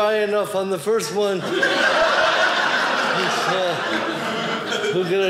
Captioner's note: audience laughing